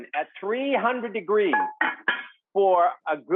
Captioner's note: pot lid clank